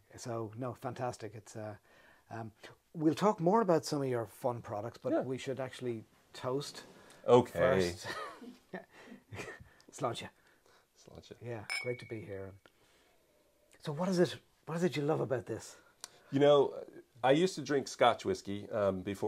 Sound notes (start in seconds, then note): 7.8 laughs